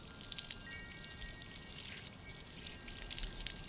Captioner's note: gentle chiming